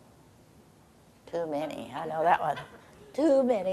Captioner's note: audience chuckling